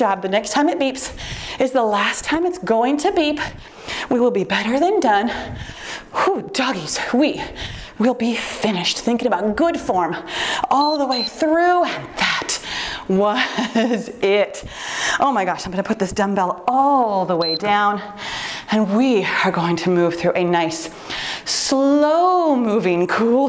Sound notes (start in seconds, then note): 10.7 timer beeps; 17.4 timer beeps